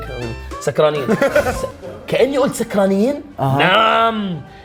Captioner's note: laughs